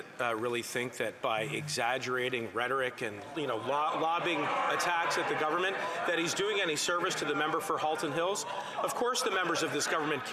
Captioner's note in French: voix de l'interprète